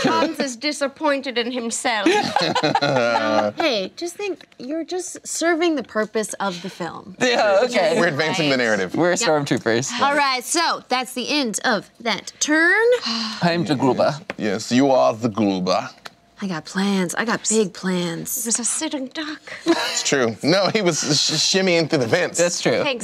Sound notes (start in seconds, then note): 2.1 laughing